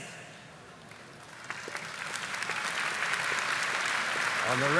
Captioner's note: audience applauding